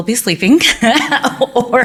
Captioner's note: laughing